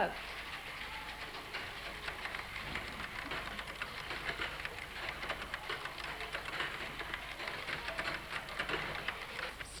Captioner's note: sound of typing